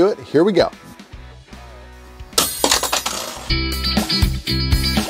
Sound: upbeat music; tool clanging; upbeat music

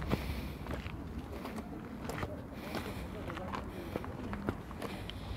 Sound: footsteps and heavy breathing

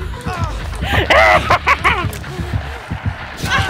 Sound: manic laughter x2

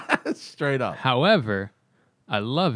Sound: laughter

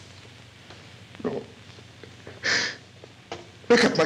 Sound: sobs

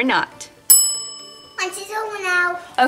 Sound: bell chimes

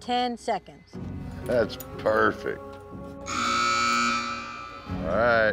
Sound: buzzer sounds

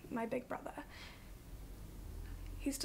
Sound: Hero's breath hitches

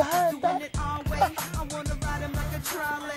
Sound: chuckling lightly

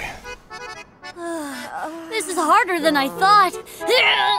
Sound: sighs; grunting

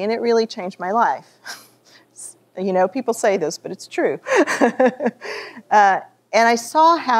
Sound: laughs

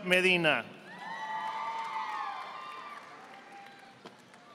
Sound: audience applauding

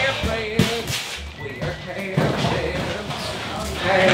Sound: indistinct chatter

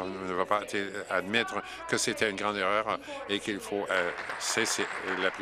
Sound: applause

